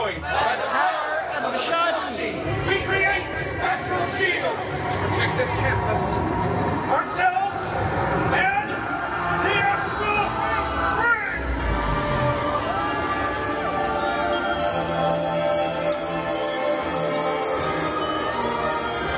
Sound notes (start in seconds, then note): 12.6 guests cheering; 14.6 chimes ringing Main Theme